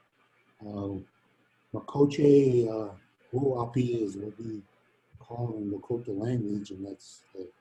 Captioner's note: speaking in native language